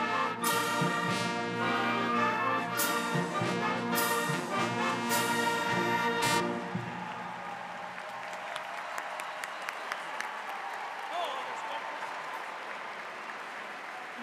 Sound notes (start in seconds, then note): 7.5 audience applauding; 7.5 cheering